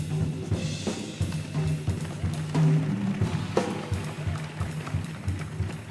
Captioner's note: audience applauding